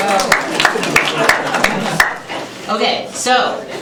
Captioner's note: applause